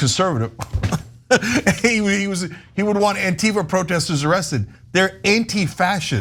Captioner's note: laugh